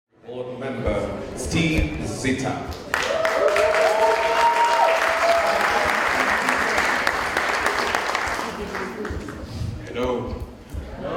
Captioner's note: cheers and Applause